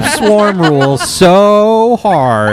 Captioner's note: laughs